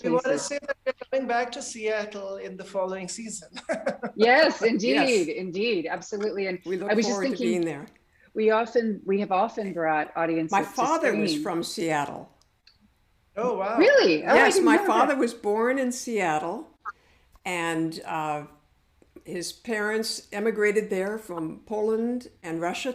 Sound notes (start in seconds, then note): 3.4 laughs; 13.2 overlapping exclamations